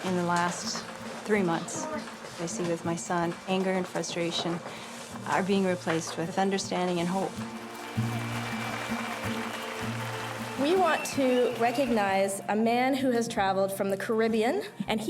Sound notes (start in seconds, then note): 7.6 audience cheering; 8.2 gentle music